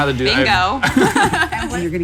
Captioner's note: laugh